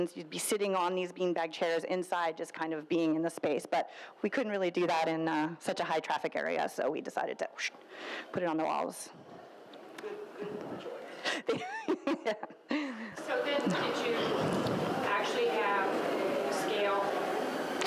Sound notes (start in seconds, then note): 8.0 shushing; 12.7 laughs